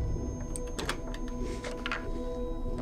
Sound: wood creaking

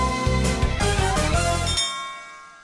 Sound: bell

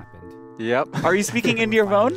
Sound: laughs

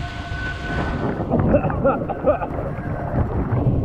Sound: coughing

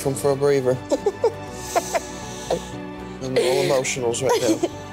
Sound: woman laughs

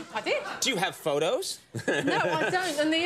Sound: laughs

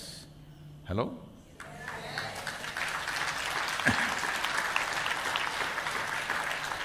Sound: applause

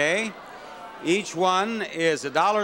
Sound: audience reprobating

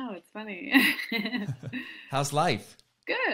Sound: laughs

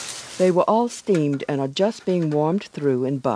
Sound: voiceover

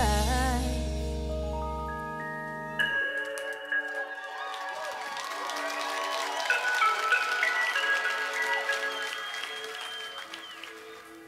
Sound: applause

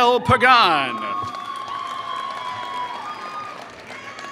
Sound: applause

